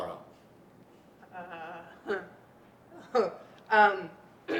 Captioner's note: chuckles